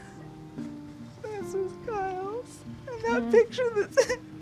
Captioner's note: crying